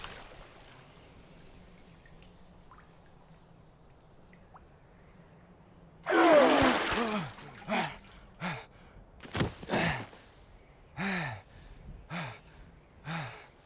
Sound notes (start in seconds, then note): 6.8 gasping